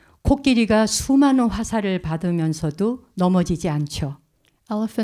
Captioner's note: speaking in Korean